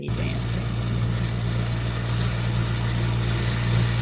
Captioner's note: engine rumbling